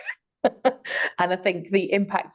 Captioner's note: laughing